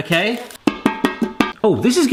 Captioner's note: metal clanging